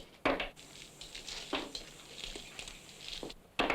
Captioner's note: shells clattering